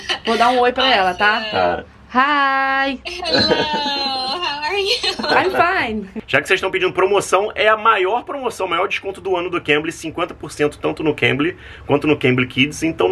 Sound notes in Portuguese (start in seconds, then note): 2.1 conversa em inglês